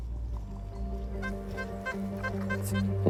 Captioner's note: detector beeps